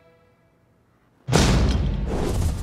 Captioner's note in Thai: เสียงกระแทกไม้